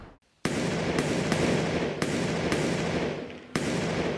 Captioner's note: guns firing